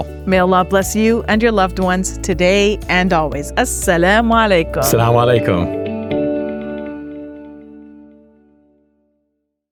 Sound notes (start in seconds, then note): 3.6 speaking Arabic